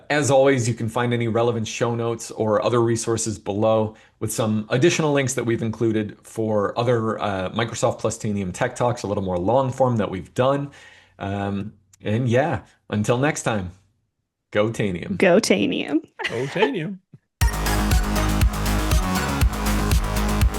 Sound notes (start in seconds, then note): 16.2 laughing; 17.4 exciting music